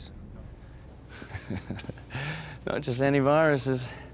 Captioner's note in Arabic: يضحك